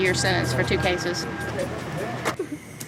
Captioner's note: woman sobbing